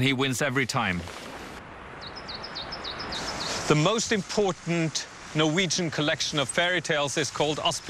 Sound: birds chirping

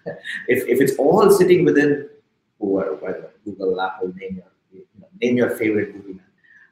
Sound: speaking softly

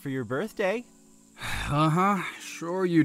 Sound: scoffs

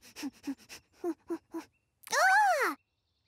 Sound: sniffing

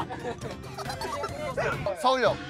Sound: laughs

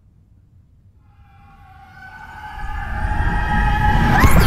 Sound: screaming; portal whooshing

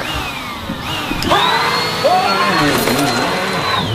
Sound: screams

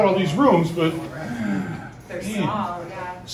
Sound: sighs

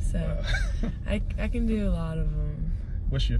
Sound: laugh

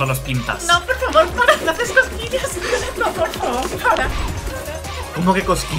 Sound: laugh

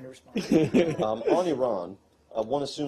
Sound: laughter

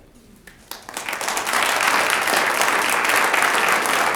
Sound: audience applauds

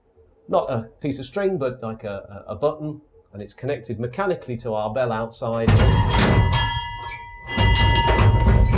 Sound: bell rings

